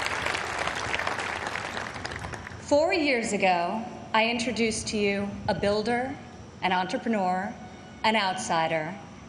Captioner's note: applause